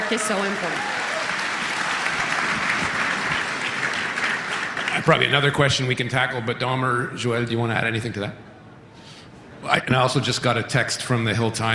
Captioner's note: cheering and Applause